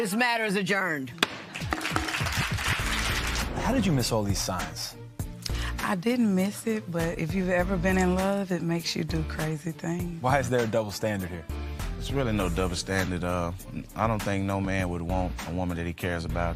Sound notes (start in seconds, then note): 1.2 applause